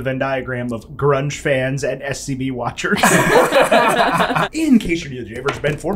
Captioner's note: laughter